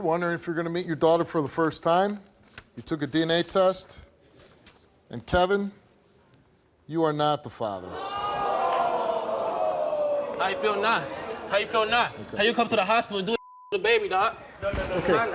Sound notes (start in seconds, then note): 7.9 audience booing; 13.4 beep